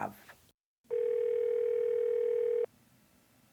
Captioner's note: phone ringing